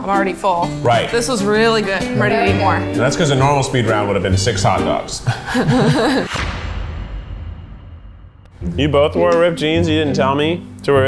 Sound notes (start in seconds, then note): 5.1 all laughing; 6.6 dramatic music